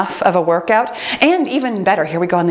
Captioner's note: timer beeps